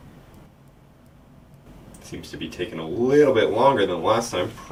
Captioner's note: whoosh